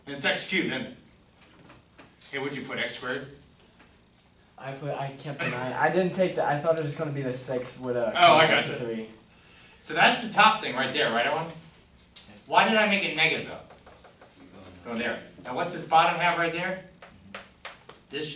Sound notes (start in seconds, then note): 4.9 voiceover